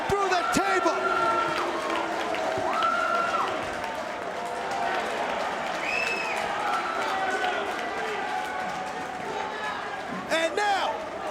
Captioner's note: applause